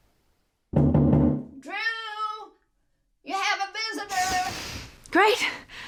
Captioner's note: knocking on door